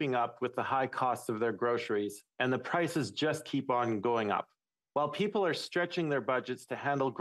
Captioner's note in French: voix de l'interprète